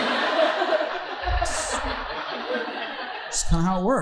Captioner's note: audience laughing